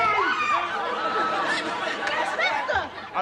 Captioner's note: squeals